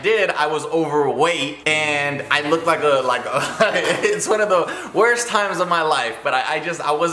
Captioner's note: laughing